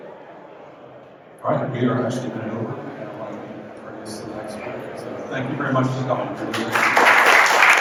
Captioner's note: applause